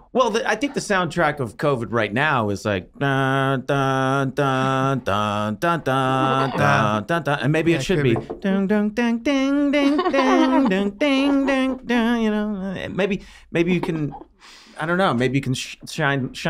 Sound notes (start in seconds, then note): 2.8 humming Theme; 8.6 humming cheerful music